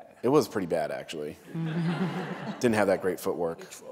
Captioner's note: laughter